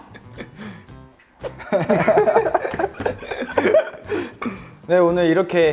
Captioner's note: laughs